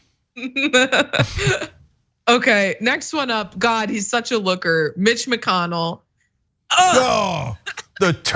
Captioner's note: laugh